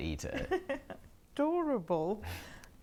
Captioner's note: Aquila laughs